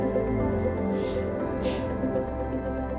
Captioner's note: Max exhales